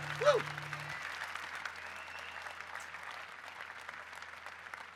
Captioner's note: audience applauding